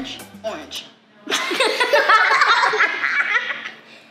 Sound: laughter

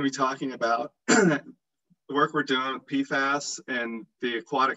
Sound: clears throat

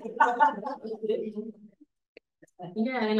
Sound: audience laughs

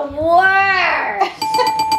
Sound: bell dinging

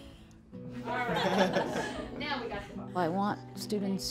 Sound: laughing

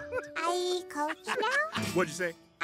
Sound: laughing

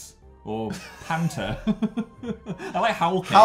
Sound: laughing

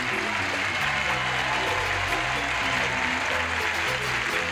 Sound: applause

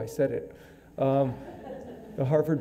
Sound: audience laughing

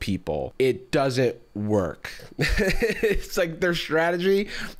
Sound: laughs

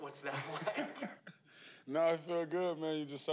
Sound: laughing

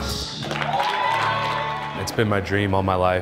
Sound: audience cheers

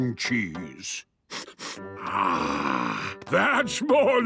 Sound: sniffs

